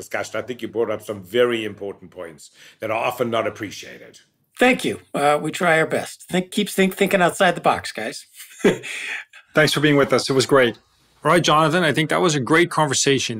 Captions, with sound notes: I think you brought up some very important points that are often not appreciated. >> Thank you, we try our best. Keep thinking outside the box guys [LAUGH] >> Thanks for being with us, it was great. >> All right, Jonathan, I think that was a great conversation.